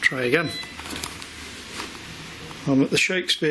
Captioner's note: machine beeps